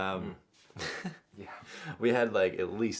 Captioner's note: laughs